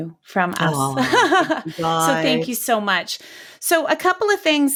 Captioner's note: laughing